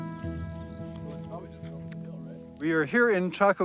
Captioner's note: crew chattering faintly